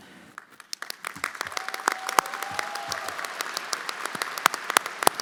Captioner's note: everyone applauding